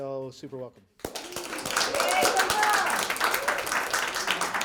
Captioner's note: applause